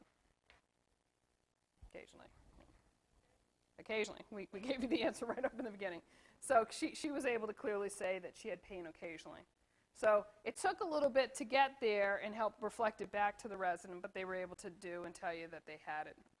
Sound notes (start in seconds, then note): 4.7 laughter